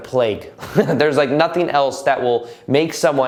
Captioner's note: laughs